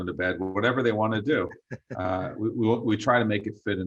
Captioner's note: chuckles